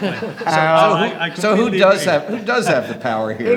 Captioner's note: laughter